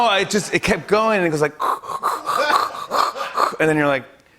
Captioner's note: imitates whooshing